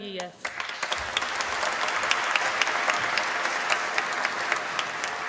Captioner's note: applause